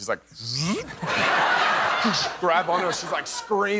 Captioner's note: laughter